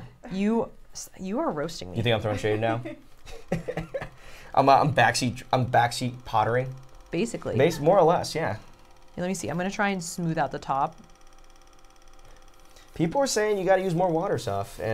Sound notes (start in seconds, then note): 3.2 laughs